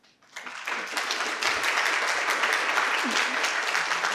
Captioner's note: participants clap